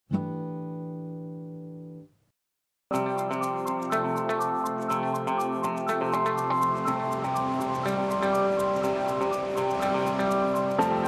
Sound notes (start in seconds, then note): 0.2 guitar strum; 2.9 upbeat music; 6.3 water rushes